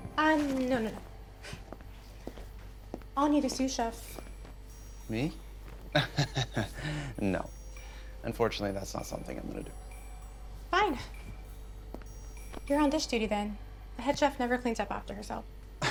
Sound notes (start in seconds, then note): 5.9 chuckles